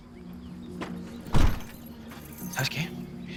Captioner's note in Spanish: Ruido al cerrar la cajuela